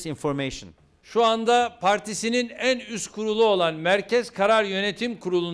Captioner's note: non-english speech